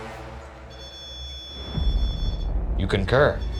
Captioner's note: REM pod beeping